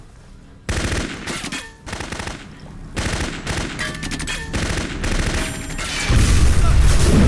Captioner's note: bullets clanking; machine gun firing; explosion booming